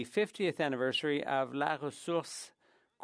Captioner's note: speaking French